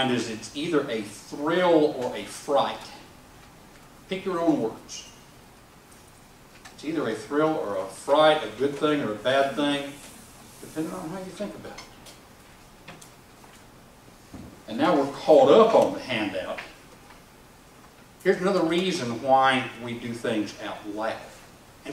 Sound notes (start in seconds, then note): none